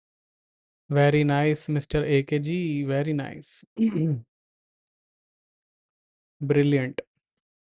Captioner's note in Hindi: गला साफ़ करने की आवाज़